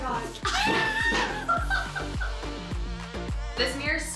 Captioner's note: laughs